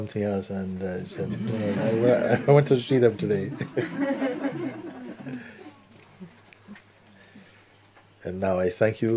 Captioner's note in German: Lachen